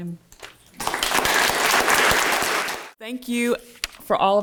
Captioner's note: audience clapping